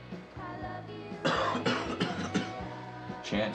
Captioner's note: Chance coughing